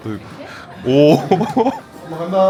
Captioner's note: chuckles